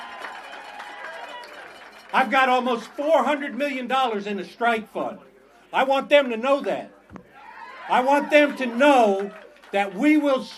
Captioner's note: applause